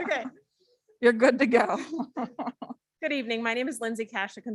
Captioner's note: laughs